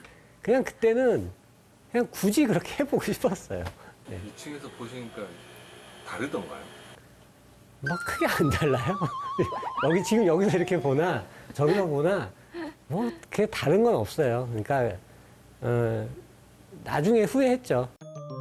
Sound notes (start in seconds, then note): 8.3 laughs